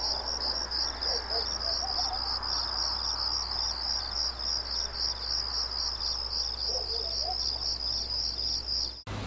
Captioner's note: birds chirping